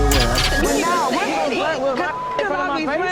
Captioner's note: beep